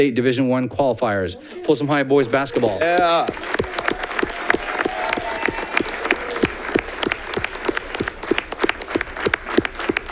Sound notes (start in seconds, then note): 1.6 audience cheering; 2.2 audience clapping